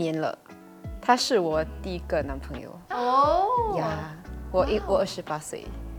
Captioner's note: ohh